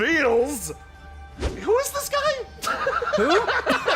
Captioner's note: woosh